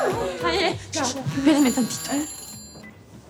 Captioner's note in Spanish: Exclamaciones; Suena el celular